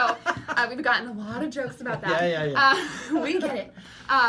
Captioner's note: laughing